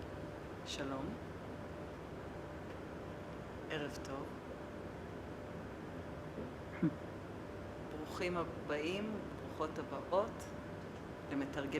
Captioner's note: non-english speech